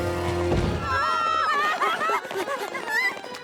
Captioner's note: laughs evilly; all screaming, panting